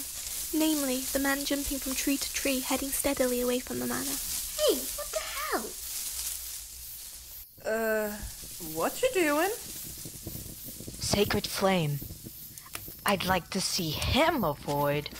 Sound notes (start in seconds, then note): 9.8 flames crackle